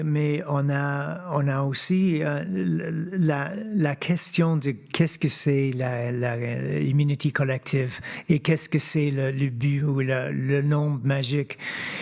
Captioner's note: speaking French